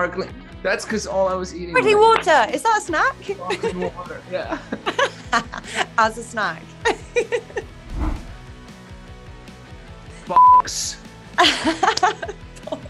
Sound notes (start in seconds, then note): 10.4 beep; 11.4 Daisy laughs